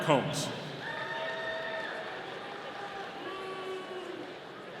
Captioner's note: audience cheering